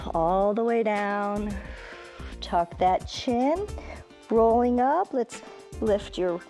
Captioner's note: exhales